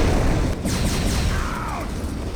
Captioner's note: ahh!!!!